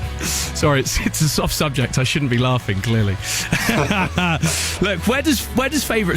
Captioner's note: laughing